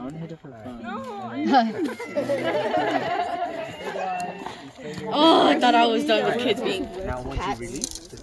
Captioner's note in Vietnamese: Tiếng cười